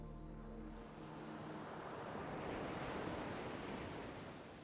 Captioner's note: waves cresting and falling